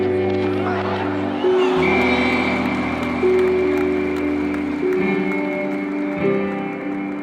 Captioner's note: crowd cheering; whistle blowing